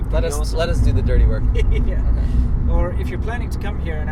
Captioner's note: both laugh